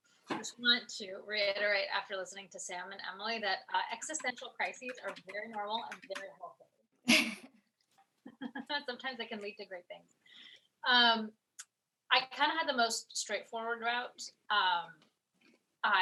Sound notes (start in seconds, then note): 8.2 laughter